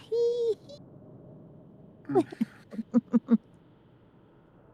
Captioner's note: laughter